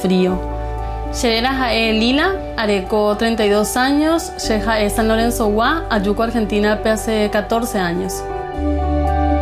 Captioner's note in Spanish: Voz de mujer hablando en guaraní; Música suave